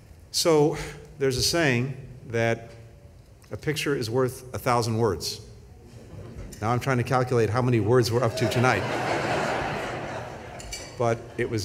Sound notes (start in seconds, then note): 8.2 laughter